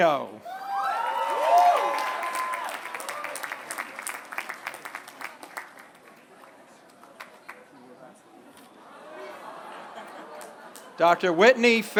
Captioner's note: applause